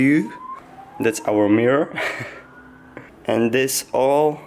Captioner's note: quiet laugh